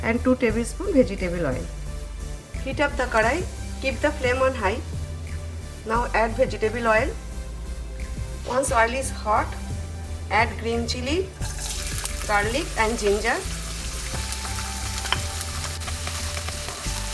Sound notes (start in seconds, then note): 14.0 sizzling